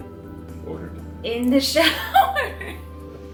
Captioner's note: laughs